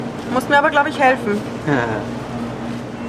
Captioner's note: laughs